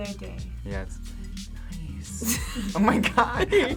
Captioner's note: both laugh